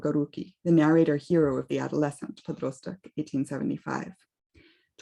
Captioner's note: speaks russian